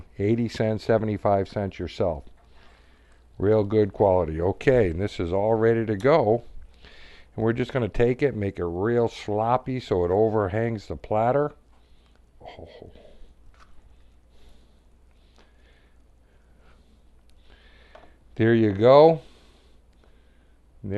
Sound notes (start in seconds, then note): 12.4 silence